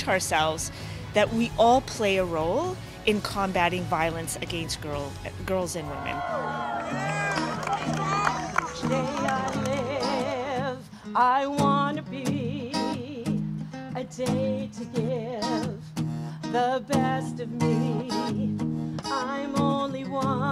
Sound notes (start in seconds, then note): 8.8 cheering; 10.3 singing